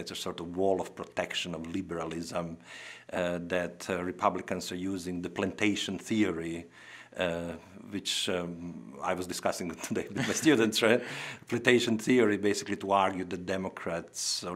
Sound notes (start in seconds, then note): 9.8 chuckling